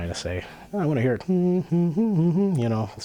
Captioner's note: humming notes